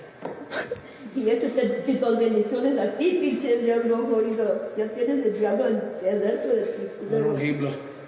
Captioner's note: speaking in foreign language; officer speaking in foreign language